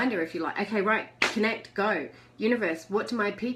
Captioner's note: hands smack